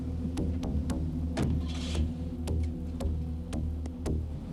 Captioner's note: car door thudding; dramatic music